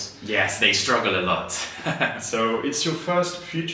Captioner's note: rires